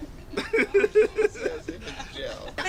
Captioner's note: laughing